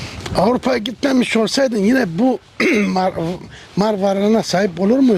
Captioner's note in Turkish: boğazını temizler